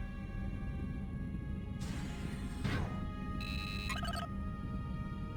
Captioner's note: beeping